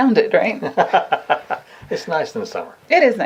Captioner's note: laughs